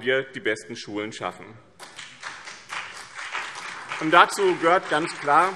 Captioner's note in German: Beifall BÜNDNIS 90/DIE GRÜNEN und CDU